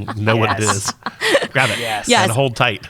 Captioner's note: laughing